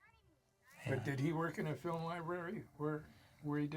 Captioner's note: Roy chuckles